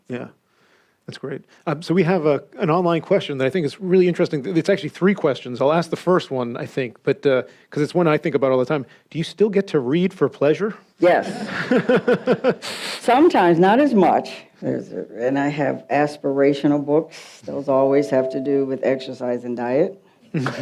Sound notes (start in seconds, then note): 11.3 and audience laughs; 20.3 audience laughs